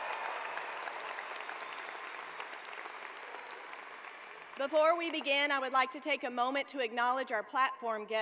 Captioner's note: cheers and applause